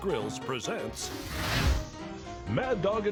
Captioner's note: dramatic whooshing